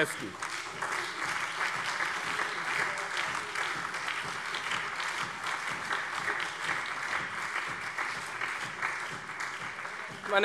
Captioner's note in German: Beifall : Krude!